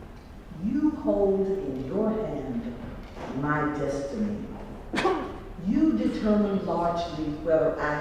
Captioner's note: cough